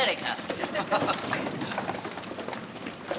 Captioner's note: man And Woman Chuckle